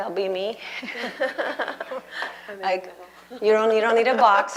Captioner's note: laughter